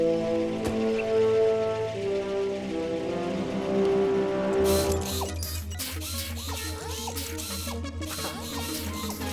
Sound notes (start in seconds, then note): 4.6 whirring